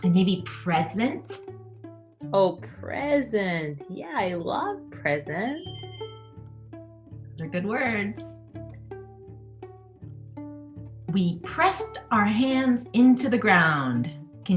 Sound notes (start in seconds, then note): 6.0 bell chimes; 8.5 soft guitar music